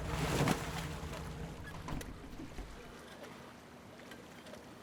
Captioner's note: water splashing